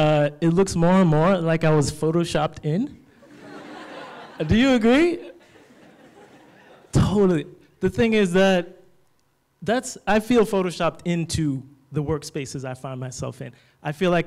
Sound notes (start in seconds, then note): 3.2 laughter